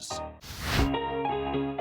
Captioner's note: swoosh; piano music continues